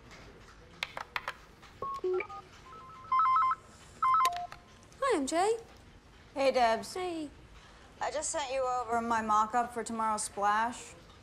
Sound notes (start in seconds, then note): 1.8 phone ringing